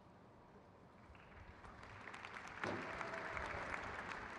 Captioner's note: crowd claps